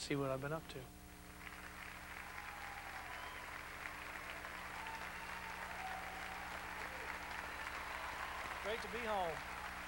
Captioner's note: crowd cheering